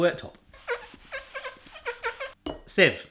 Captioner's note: squeaking